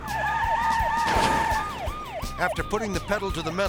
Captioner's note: sirens wailing